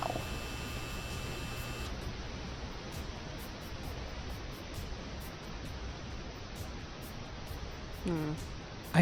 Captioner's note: static